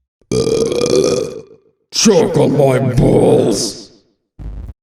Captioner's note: burp